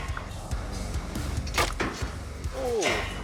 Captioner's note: clank